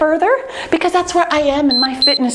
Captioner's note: timer beeping